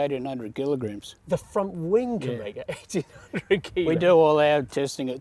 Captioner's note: laughs